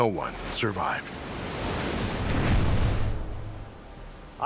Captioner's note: wave whooshes